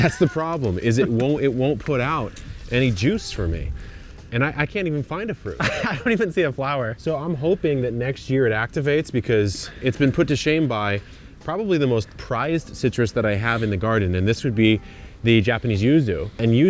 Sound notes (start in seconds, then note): 0.0 chuckle; 5.5 laughs